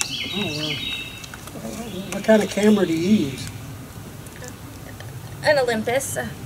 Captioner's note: birds chirping